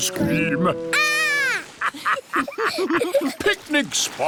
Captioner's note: laughter